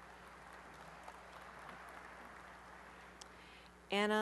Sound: applause

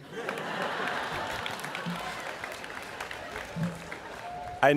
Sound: students laughing

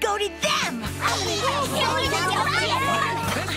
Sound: cheering

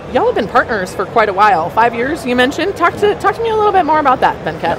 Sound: none

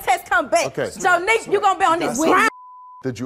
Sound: beep

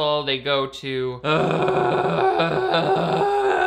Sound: groaning

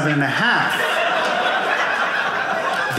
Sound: audience laughing

